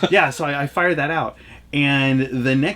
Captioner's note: laughs